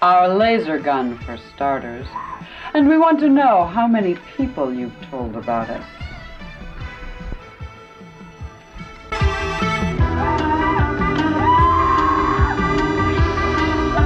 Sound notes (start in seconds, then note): 7.5 people yelling; 7.5 upbeat synthesizer music